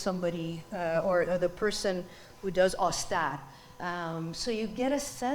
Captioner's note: speaks foreign language